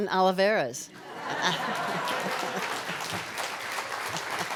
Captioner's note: applause